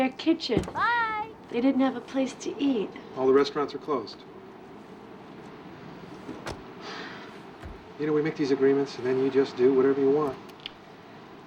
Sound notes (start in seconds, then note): 7.5 sighs